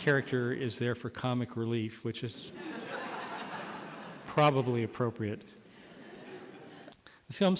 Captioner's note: laughter